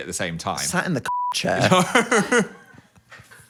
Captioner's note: beep